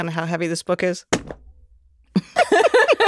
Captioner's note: book thudding; group laughing